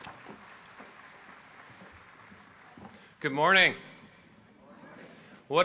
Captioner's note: applause